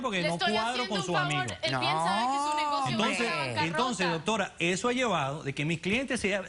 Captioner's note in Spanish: Hablan al unísono